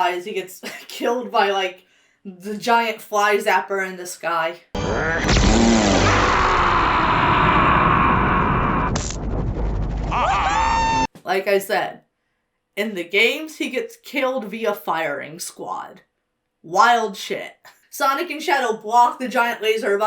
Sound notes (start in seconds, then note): 4.8 Robotnik screams; 8.8 electricity snaps; 10.1 friends cheer and laugh